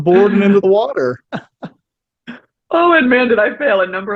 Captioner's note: podcaster laughs